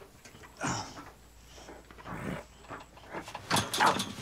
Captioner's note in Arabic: آهات